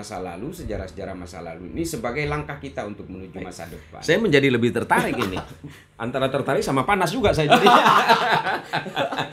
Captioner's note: laughs